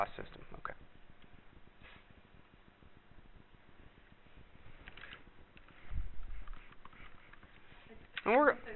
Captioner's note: pause in dialogue